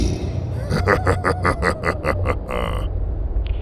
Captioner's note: Acoleyet laughs evilly